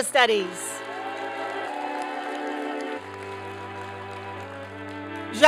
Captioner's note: applause